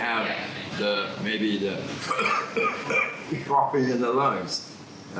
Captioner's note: coughs